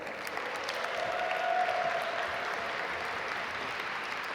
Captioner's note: audience applaud